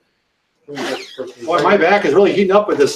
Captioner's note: blowing